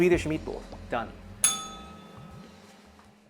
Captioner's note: bell rings